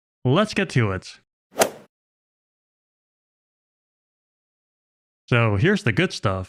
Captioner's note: golf ball hit sound effect